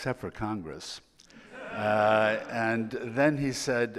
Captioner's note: audience laughing